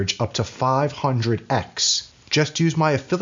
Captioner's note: none